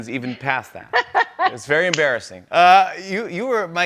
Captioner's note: laughs